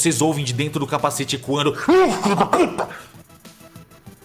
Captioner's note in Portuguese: Urgh!